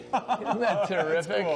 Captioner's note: laughter